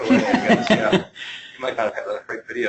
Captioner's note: laughing